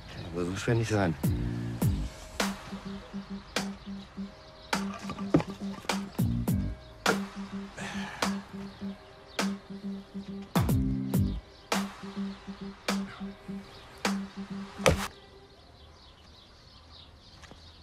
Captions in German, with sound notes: Kann ja wohl so schwer nicht sein. (Aufgeweckte Musik) (Seufzen)